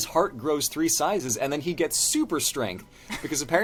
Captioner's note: laughter